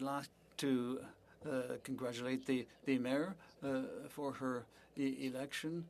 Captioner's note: speaking French